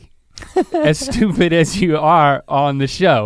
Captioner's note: Rhett chuckles